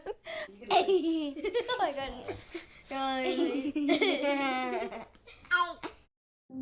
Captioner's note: kids laughing